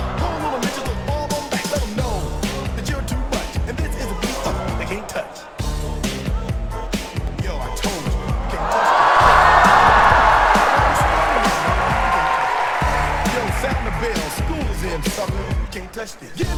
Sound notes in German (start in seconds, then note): 8.6 applaus